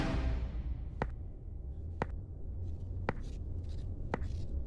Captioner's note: rocks tapping